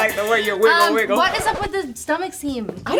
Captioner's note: record scratching